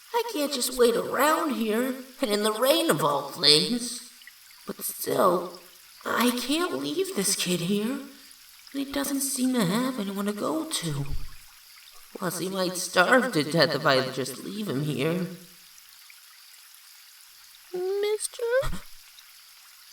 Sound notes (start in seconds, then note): 18.8 gasps